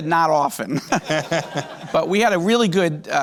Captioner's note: laughs